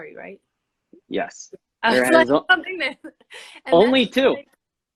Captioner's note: laughing